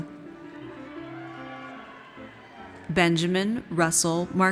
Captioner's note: audience cheers